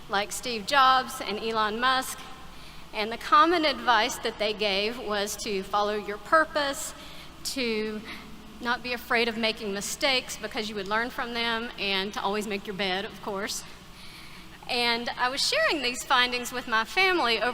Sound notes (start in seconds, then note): none